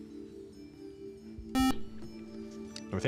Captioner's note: beep